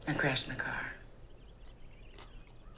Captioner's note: birds chirping